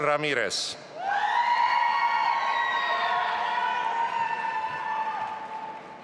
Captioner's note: audience applauding and cheering